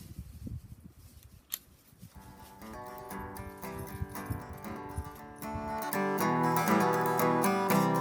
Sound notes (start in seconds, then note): 1.4 click